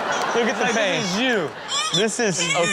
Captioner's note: audience sighs